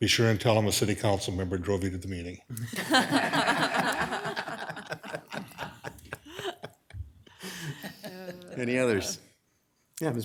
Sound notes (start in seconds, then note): 2.6 all laughing